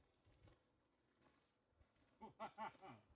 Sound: laughing

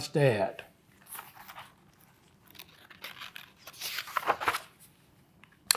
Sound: pages rustling

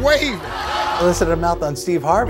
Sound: audience laughing

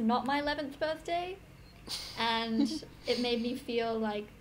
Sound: little laugh

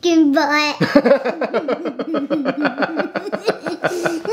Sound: both laughing

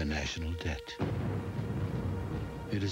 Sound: thunderclap

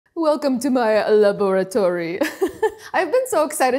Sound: laughs

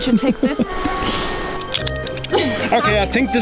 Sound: carabiner clicking

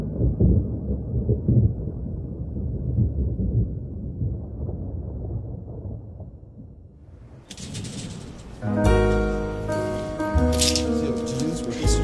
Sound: thunder

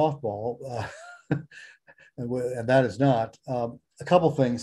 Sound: laughs

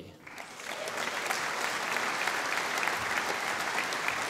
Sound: audience applauding

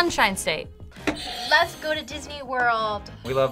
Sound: buzzer rings

